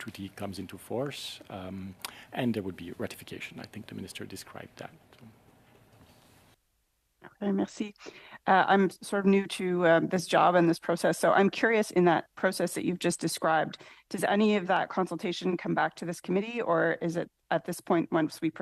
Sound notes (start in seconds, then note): 11.6 speaking French